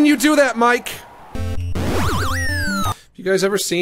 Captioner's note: game warbles